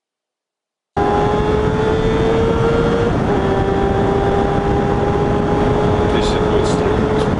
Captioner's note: tires screeching